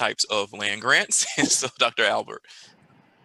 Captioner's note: chuckles